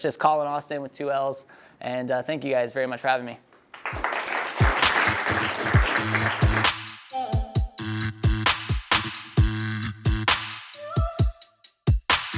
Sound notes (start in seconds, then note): 3.7 audience clapping; 3.9 upbeat music